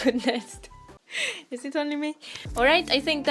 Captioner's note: laughs